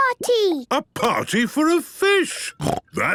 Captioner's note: snorting